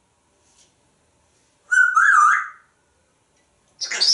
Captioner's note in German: whistling